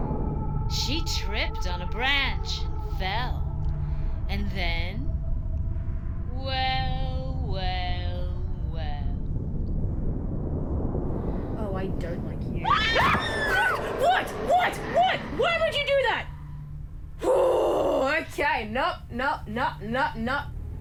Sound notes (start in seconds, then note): 12.6 screams; 12.6 shrieks